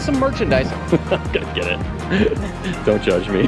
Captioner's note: chuckles